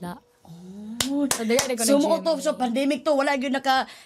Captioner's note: claps